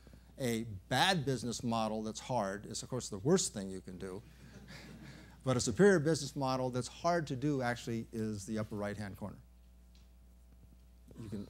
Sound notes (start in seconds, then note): 4.5 laughter